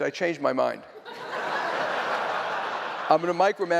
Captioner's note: laughter